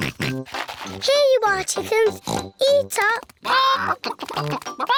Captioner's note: oinks